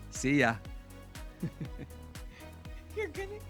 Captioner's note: laughing